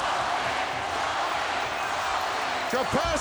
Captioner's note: audience chanting